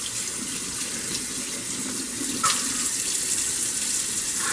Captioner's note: tap running